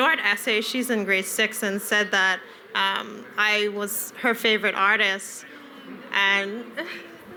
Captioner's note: laughter